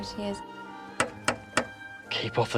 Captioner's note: knocking on door